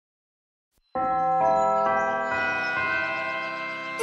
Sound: bells chime

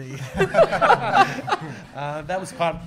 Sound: laughing

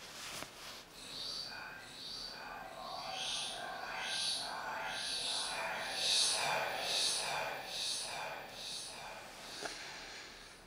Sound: ghostly whispering

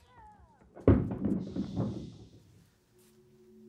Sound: clattering

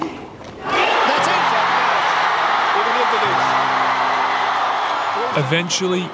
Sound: audience cheering

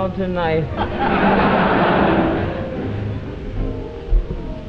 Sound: audience laughing

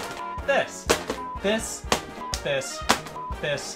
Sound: beep; beep

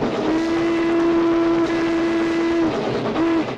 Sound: train whistle blowing

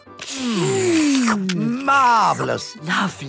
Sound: slurping

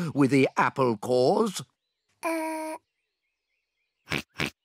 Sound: oinks

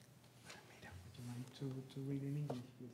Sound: whispering in Spanish

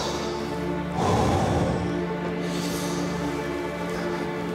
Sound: sighs heavily

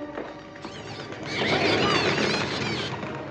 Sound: bird Screeching

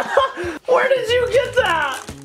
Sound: laughs

